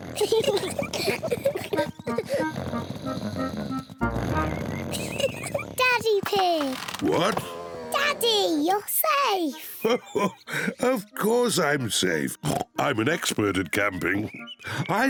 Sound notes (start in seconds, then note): 0.1 both laugh; 2.2 snoring; 4.4 laughs; 9.5 laughs; 12.4 oinks